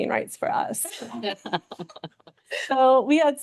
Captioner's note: board members laughing